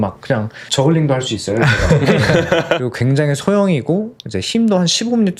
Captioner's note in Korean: 웃음